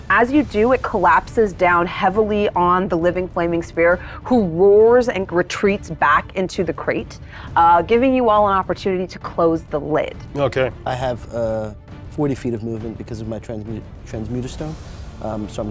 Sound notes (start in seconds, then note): none